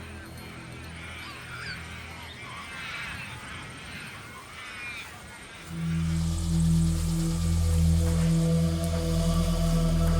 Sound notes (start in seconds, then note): 0.7 ibises squawking; 5.6 locusts buzzing; 5.6 eerie music